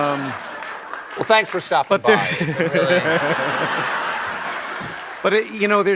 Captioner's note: laughter